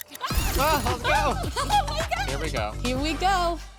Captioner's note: shrieks